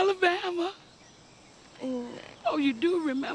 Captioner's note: Gina stammers